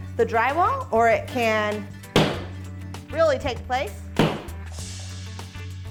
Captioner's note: hammer bangs